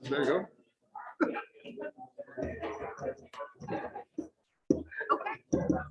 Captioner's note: indistinct chatters